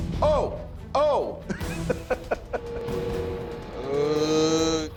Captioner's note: laughs